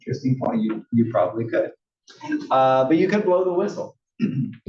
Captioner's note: cough